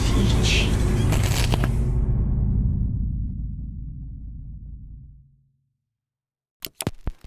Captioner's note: face crackles